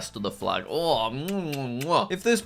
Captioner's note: making kissing sounds